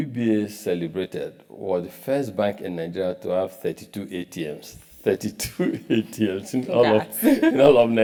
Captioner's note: laugh